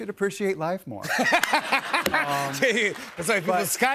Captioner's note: laughter